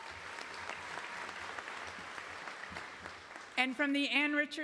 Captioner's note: applause